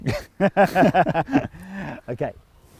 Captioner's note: laughs